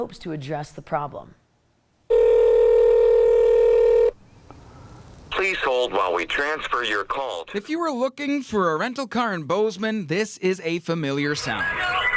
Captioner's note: ring*** “please hold while we transfer your call.”